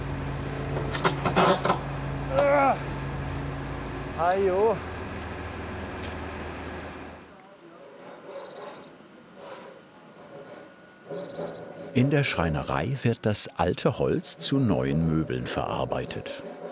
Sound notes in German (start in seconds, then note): 0.8 Knarzen; 2.3 Ächzen; 8.0 Fernes Sägegeräusch